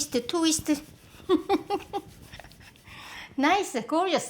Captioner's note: laughs